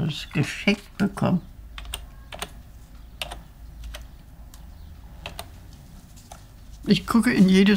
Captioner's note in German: Geräuch: Tippen von einer Tastatur